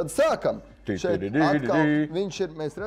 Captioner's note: imitating a trumpet